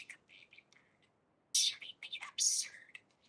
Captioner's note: bird